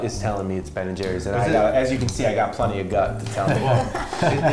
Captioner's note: laughter